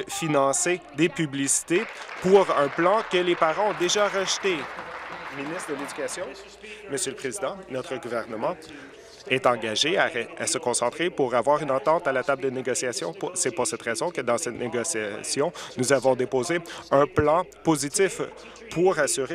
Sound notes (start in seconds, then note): 5.6 applause